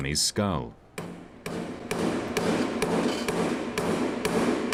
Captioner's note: mallet banging